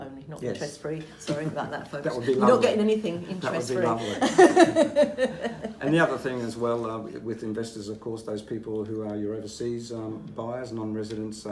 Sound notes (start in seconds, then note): 4.0 both laughing